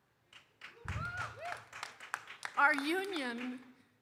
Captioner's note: audience applauding